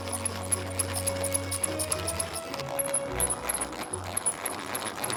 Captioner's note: butter churn squeaks